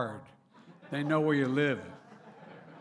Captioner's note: laughter